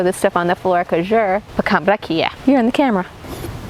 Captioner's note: speaking in foreign language